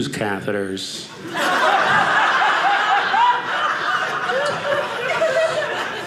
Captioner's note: audience laughing